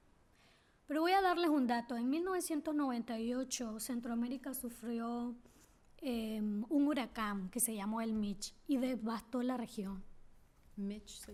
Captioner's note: speaking spanish